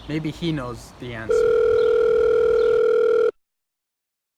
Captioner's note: phone ringing